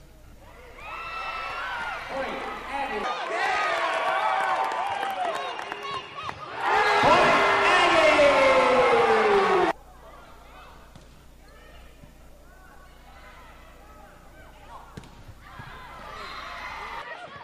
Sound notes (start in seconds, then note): 1.0 cheering; 15.7 whistle blowing and cheering